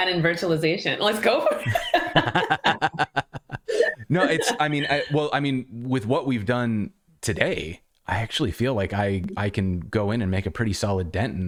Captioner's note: laughter